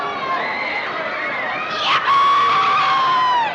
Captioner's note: cheering